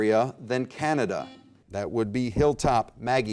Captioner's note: buzzer beep